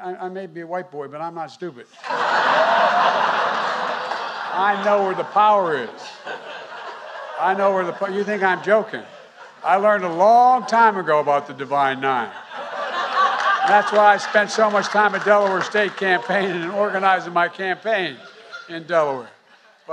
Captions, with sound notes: I may be a white boy, but I'm not stupid. (Laughter.) I know where the power is. I know where the po- -- you think I'm joking. I learned a long time ago about the Divine Nine. (Laughter.) And that's why I spent so much time at Delaware State, campaigning and organizing my campaign in Delaware.